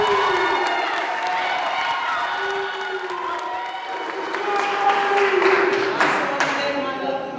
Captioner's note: cheering